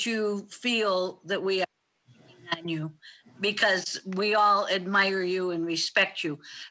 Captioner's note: faintly speaking